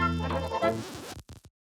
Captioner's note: record scratches